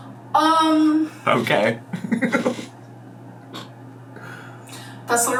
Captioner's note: laughs